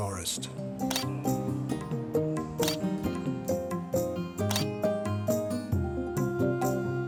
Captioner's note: dreamy music continues; shutter clicking